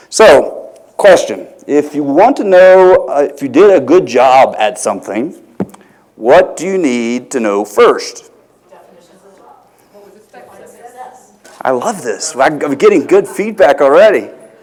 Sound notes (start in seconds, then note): 8.6 crowd speaking